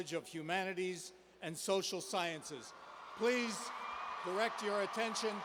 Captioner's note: cheers